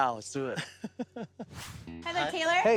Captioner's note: laughing